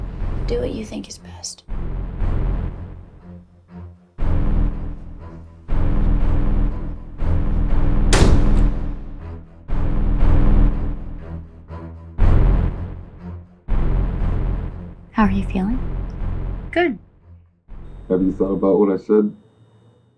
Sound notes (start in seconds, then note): 7.9 door Slams